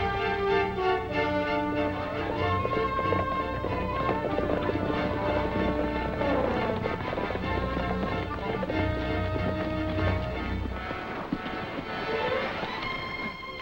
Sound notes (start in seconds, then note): 2.8 hooves clop